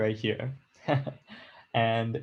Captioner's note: chuckles